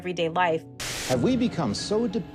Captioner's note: soundbite of archived recording